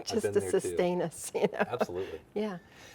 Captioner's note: laughing